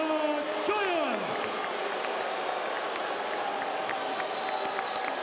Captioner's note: crowd boos